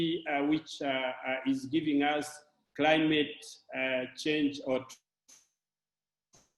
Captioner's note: distortion